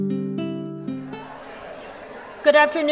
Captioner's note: chatter